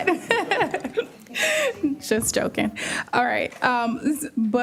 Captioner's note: laughter